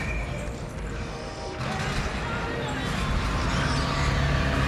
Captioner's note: scraping